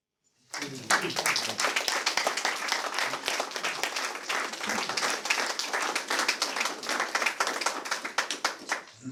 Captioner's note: applause